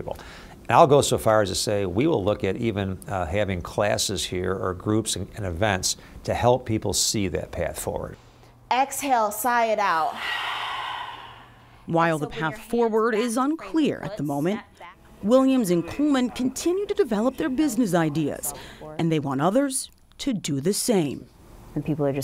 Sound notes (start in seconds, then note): 10.0 exhaling